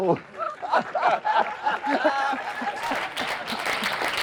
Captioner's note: laughing; applauding